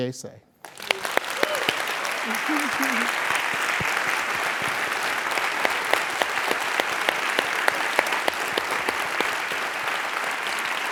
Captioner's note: applause